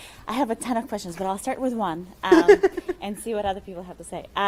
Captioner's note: laughing